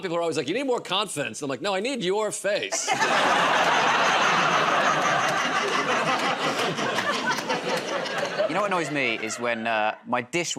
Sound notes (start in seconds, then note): 4.2 laughter